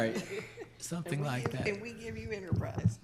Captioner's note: laughs